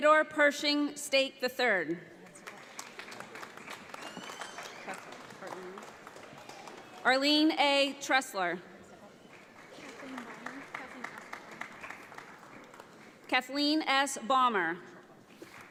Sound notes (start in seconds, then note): 2.3 audience applauds; 9.2 audience applauds